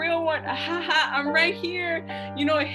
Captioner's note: fakes laugh